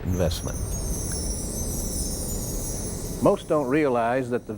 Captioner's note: bells chiming